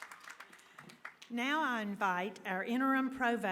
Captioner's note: applause